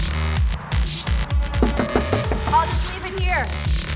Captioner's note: knocking